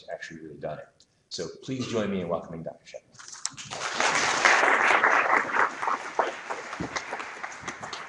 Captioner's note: applause